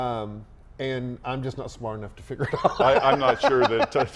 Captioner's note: laughs